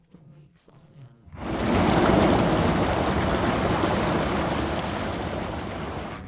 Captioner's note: rushing water